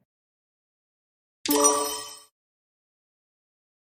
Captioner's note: sonido de timbre correcto